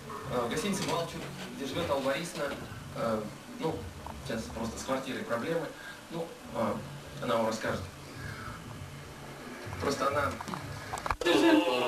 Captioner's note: TV on the background